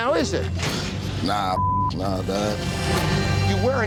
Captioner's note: beep